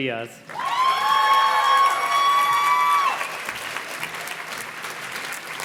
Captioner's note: audience cheers and claps